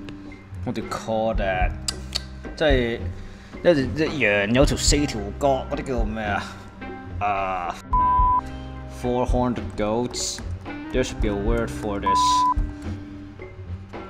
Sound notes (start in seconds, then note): 2.5 Cantonese